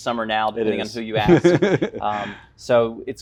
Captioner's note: laughs